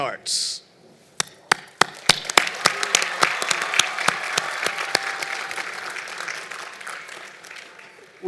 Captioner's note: applause